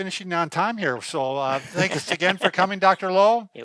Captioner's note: laughing